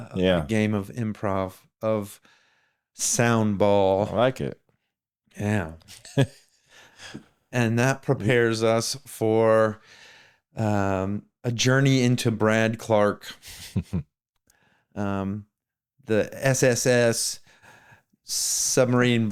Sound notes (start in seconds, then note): 13.7 laughs